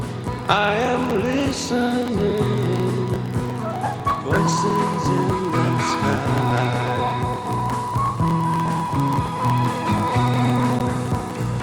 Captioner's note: screaming